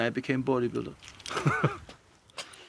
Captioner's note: laughs